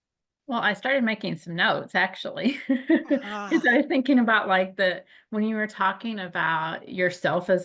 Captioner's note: laughter